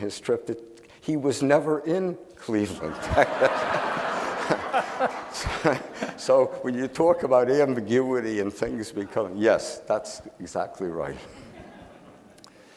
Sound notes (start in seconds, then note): 2.7 audience laughing